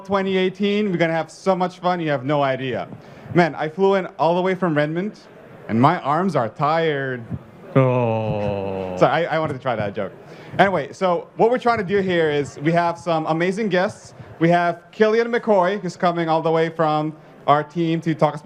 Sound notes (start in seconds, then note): 11.6 groaning